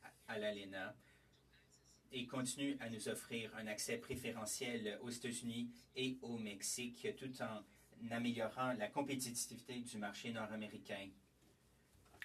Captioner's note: speaking French